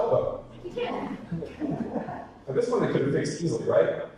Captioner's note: audience laughter